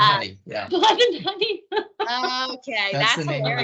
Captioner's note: laughing